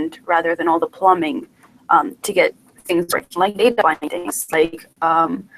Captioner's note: choppy sound and video